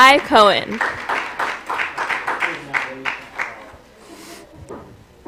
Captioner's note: applause